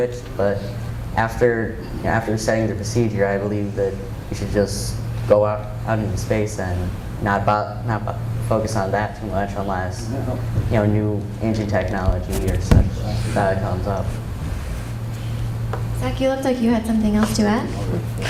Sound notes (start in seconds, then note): none